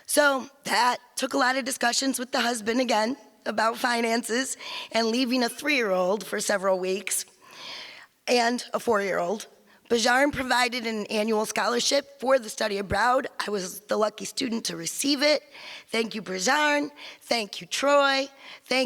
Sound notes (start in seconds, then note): none